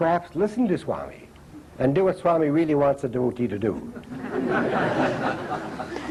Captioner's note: laughter